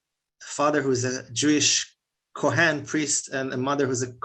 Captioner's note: Hebrew